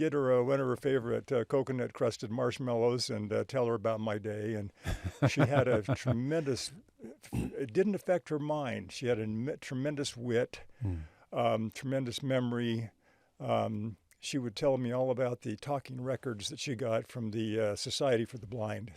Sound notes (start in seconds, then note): 4.8 laughing